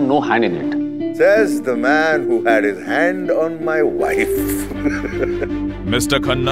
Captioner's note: Laughs